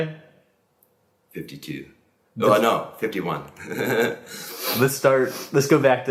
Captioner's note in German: lacht